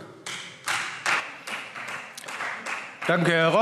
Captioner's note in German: Beifall Freie Demokraten